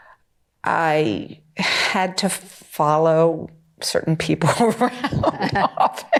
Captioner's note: laughing; laughs